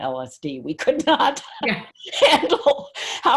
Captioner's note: laughs